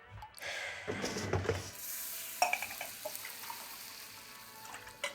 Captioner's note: pouring coffee